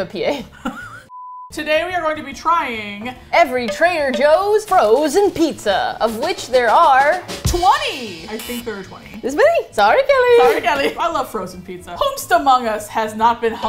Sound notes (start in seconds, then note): 0.4 both laugh; 7.4 buzzer; 9.4 high-pitched voice